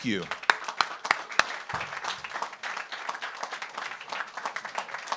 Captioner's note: audience applauds